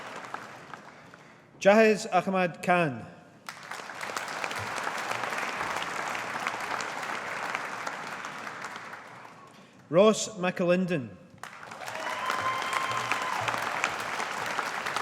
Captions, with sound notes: Jahez Ahmad Khan. (AUDIENCE APPLAUDING) Ross Mcalinden. (AUDIENCE APPLAUDING)